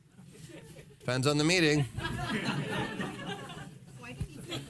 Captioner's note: laughing